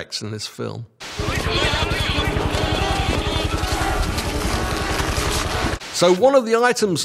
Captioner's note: people chattering; dramatic music